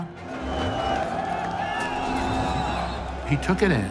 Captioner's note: cheering and yelling